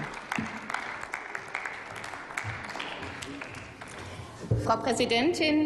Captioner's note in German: Applaus